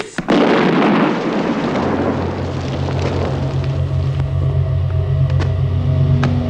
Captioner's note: grenade explosion